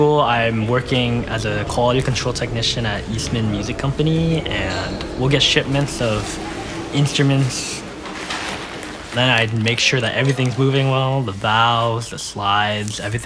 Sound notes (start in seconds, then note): 7.9 stretching gloves